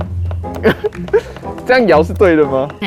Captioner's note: chuckles